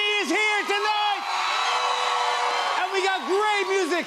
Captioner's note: cheers and applause